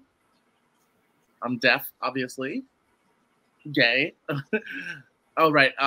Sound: laughs

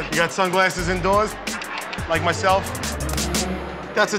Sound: clicking tongue

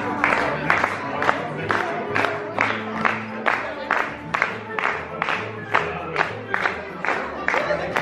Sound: hand clapping

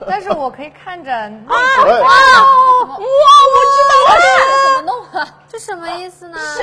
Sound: screaming

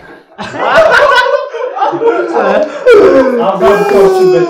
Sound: laughing their asses off

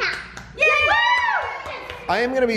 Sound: all cheering

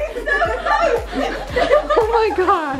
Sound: laughter

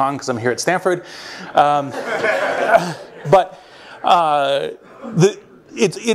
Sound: laughter

